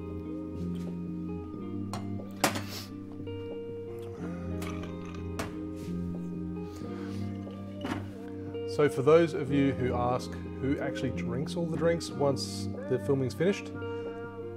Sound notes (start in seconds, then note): 2.6 sniffing